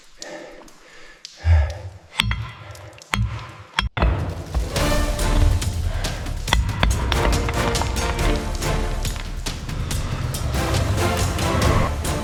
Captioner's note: breathing heavily